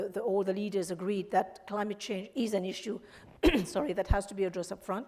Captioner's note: coughs